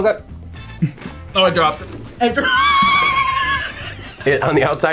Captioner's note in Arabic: يضحك